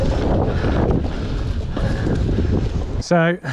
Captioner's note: wind whooshing